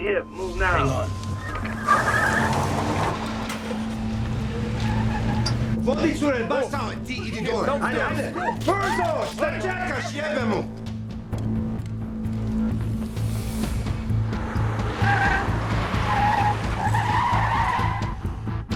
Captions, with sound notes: That's a hit. Move now. Hang on. ( SHOUTING IN SERBIAN )